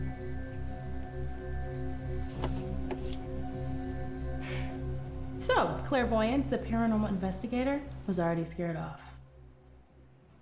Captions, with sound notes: (Claire sighs) - So Clairvoyant, the paranormal investigator was already scared off.